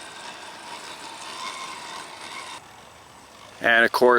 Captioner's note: engine roaring softly